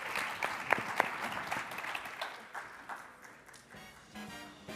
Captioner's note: panel and audience applauding